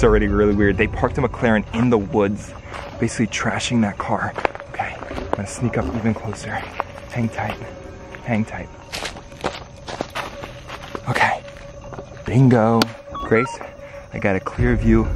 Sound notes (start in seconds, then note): 9.8 leaves crunching; 13.1 digital beeps